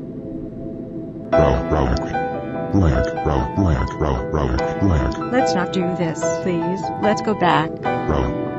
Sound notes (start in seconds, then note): 2.7 low growling